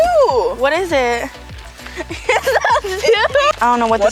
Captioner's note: laughs